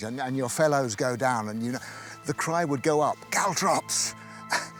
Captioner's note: exhales